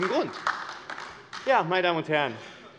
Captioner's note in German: Heiterkeit und Beifall AfD